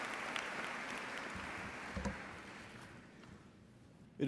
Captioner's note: applause